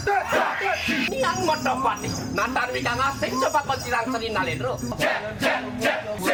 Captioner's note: monkey cry